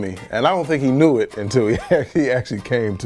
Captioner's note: chuckles